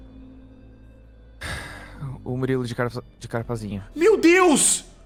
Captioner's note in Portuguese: suspiro